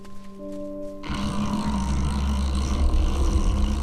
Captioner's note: rumbling